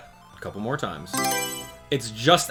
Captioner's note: Mario Selection Sound